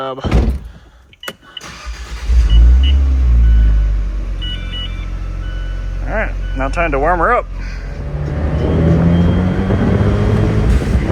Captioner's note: engine idling